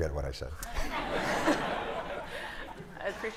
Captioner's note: laughter